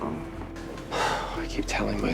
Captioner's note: Max sighs